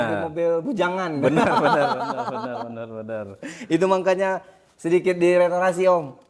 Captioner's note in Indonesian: tertawa